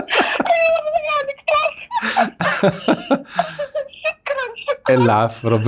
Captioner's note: happy screams!